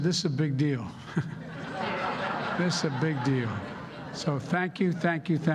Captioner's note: laughter